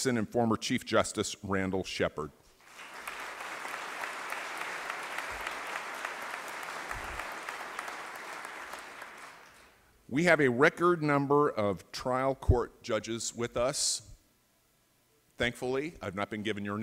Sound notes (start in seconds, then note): 2.6 applause